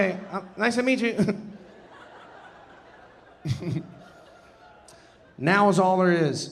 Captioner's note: audience laughing; laughing